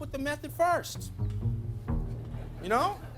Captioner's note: audience laughing